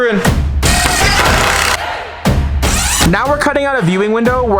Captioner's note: drill screwing